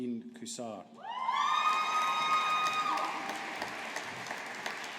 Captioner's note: audience applauding